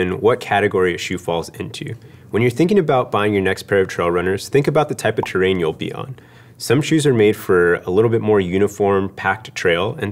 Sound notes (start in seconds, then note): none